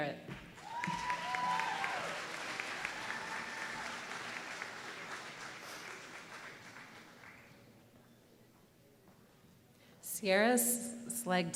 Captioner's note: applause